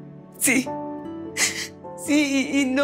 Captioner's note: Sollozos